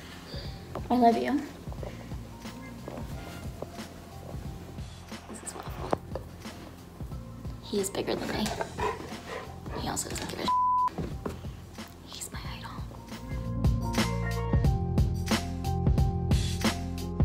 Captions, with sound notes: I love you. This is Waffle. He is bigger than me. He also (beep). He's my idol. (upbeat music)